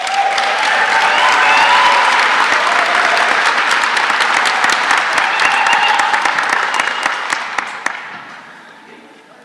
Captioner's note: applause